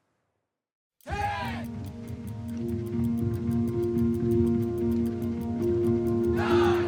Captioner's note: bike gears clicking